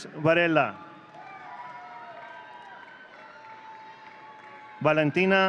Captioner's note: audience cheering